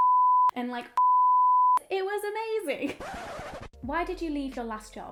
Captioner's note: beep